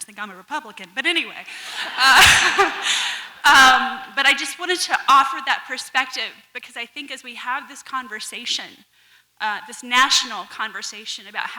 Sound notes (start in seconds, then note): 1.6 audience laughs